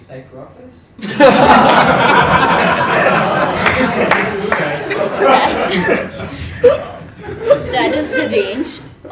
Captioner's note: laugh